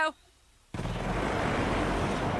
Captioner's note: engine roars